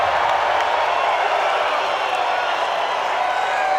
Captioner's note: crowd cheering